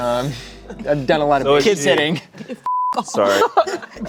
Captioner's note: beep